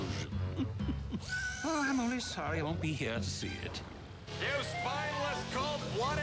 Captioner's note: chuckles